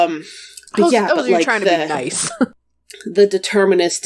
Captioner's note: laughs